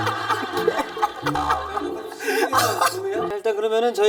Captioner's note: laughing but not laughing